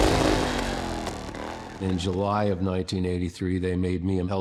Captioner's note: engine revving